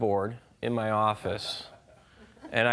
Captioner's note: laughing